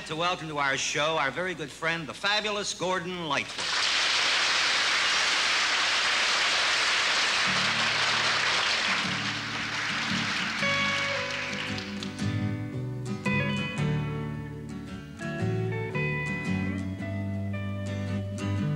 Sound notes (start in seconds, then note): 7.2 applause